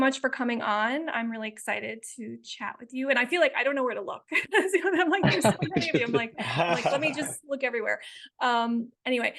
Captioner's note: laughing